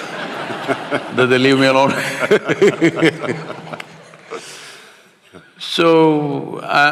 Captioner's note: laughter; both laugh